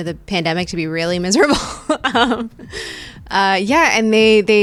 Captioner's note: laughing